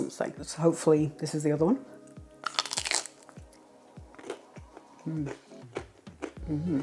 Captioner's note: crunch